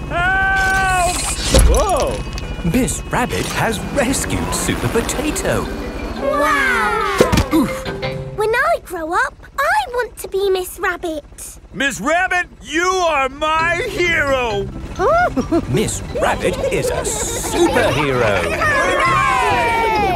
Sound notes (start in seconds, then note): 6.5 crowd; 15.0 giggles